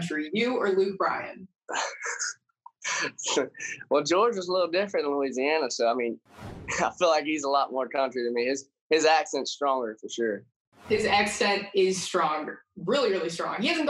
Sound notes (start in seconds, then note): 2.8 laughs